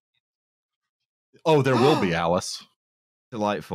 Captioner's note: gasps